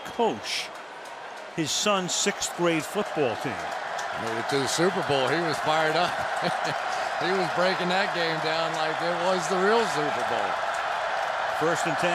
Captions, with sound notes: helping to coach his son's sixth grade football team. Went to the Super Bowl. He was fired up. [laughs] he was breaking that game down like it was the real Super Bowl.